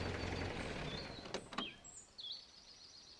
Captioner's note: car door opening